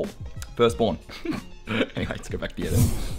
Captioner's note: laughing